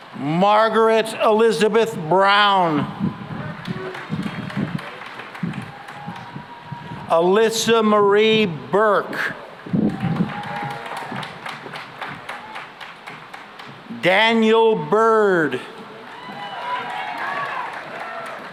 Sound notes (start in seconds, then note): 3.2 cheering and applause; 9.7 applause; 14.5 cheering and applause